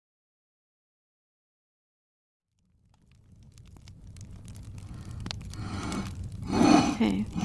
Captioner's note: furnace burning and hammering sounds